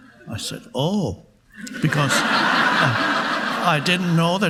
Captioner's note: audience laughing